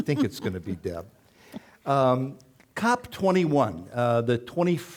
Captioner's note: chuckling